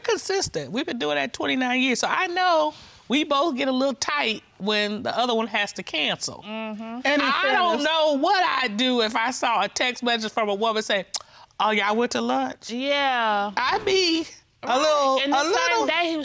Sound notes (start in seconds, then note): 11.1 clicks tongue